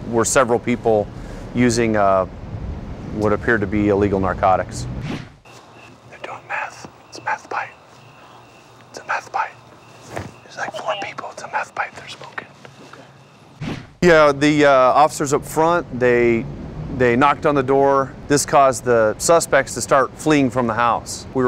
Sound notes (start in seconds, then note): 5.4 whispering